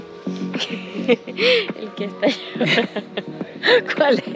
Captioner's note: laugh